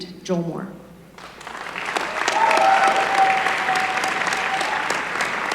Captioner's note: applause